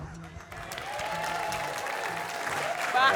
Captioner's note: cheers, applause